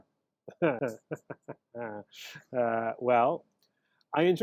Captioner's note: laughing